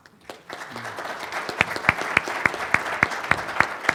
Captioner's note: applause